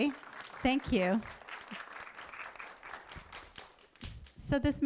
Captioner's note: clapping